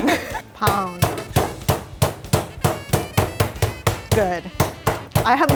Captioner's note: laughing; pounding